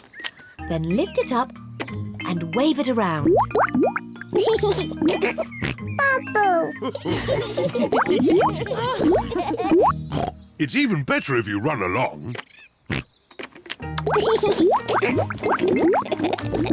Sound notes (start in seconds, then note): 3.9 laughs and snorts; 6.7 all laugh; 10.0 oinks; 12.5 oinks; 13.9 laughs